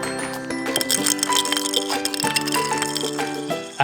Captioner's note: LEGO pieces clatter